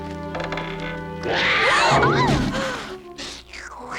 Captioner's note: Yasmin growls, Margo screams